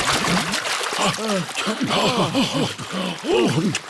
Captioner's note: all puff and pant